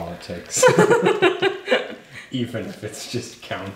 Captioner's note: laughing